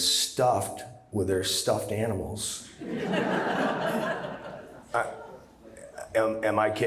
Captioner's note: laughter